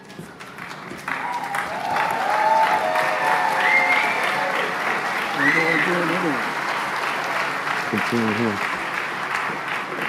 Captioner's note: applause